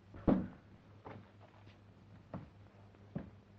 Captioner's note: door opening